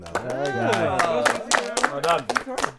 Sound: people clapping

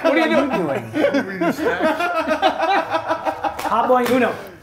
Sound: laugh

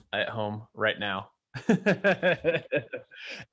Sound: laughing

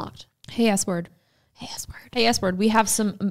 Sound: whispers

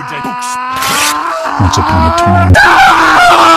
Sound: rips book

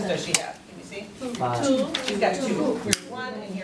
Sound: voiceover

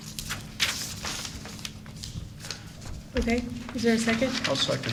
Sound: papers rustling

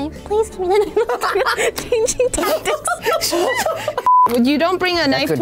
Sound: all laughing

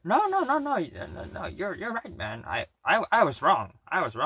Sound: stammers

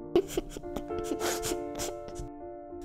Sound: laughing

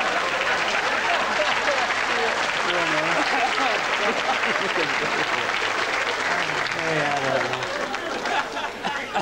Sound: loud applause

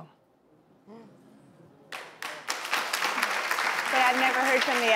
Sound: audience applause

